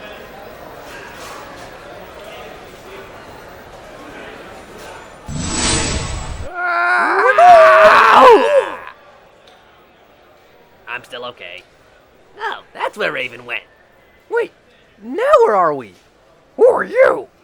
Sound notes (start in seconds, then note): 6.4 screaming